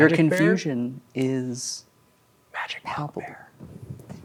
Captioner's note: whispers